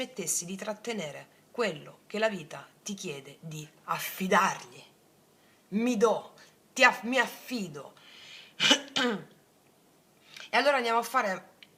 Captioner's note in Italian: schiarire la voce